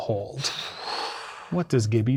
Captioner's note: exhales